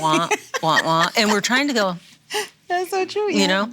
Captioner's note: laughs